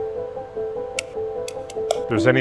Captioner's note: pensive music; rock clicking